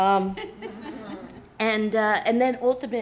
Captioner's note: students laughing